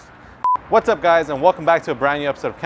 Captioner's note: scene beeps